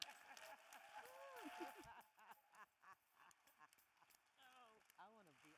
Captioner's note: audience cheering and applauding